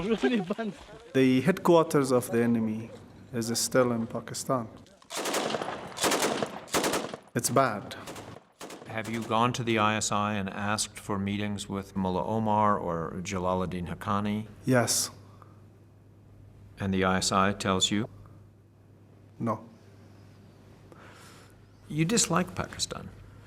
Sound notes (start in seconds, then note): 5.0 gunfire